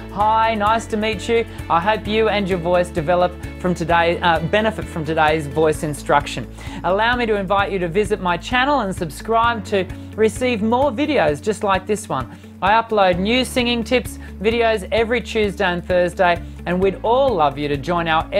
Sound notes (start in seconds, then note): none